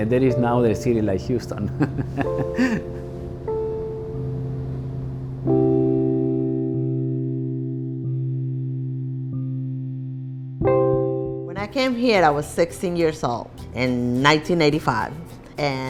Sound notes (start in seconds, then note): 1.7 laughing; 6.2 soft instrumental music